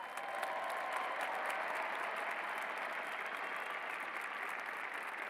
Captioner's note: cheers and applause